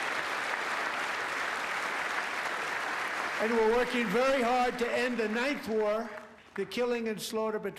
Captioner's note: applause